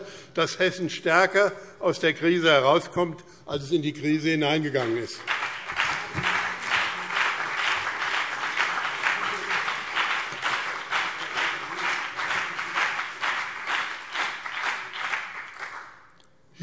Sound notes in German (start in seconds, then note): 4.6 Beifall BÜNDNIS 90/DIE GRÜNEN und CDU